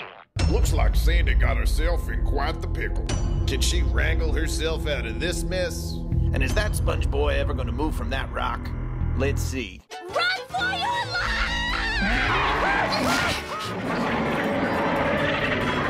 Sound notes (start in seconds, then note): 12.5 screaming; 13.8 roaring